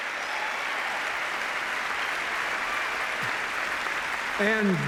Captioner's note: applause